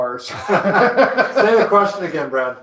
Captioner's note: laughing